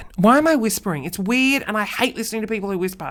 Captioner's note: talking normally